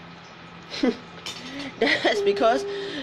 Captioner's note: laughs